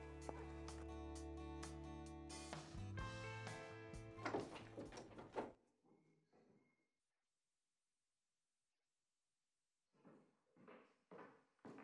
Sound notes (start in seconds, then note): 0.2 upbeat music; 4.2 door opening